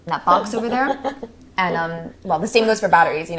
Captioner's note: Maisie laughs